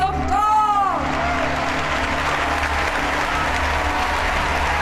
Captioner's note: audience applauding